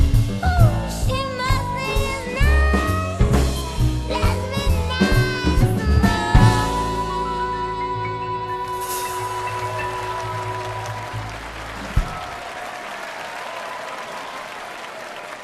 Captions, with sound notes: * She must think it's nice * Let's be nice some more (AUDIENCE APPLAUDING)